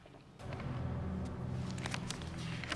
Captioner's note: shuffles papers